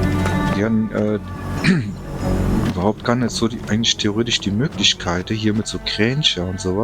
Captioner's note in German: räuspern